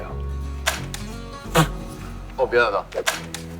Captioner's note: laughing!